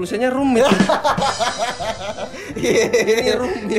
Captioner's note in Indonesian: tertawa